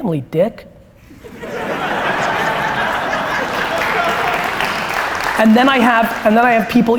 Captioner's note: applause and laughter